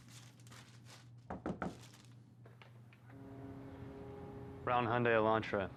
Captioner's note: fist knocking